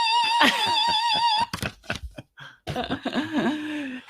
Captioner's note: laughing